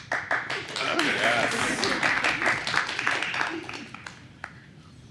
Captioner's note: applause